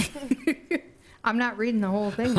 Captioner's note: laughter